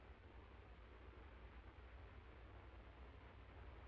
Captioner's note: none